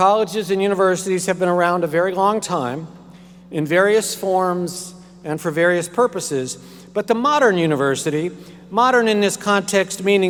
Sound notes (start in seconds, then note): none